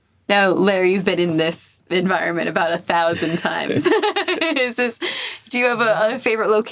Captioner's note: laughs